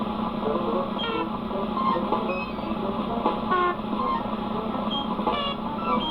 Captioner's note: beeping and squeaking